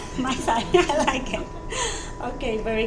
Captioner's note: laughs